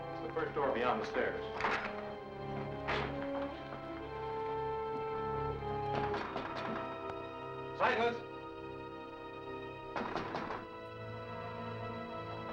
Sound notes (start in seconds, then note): 2.6 pat; 5.8 Dick knocking; 9.9 Dick knocking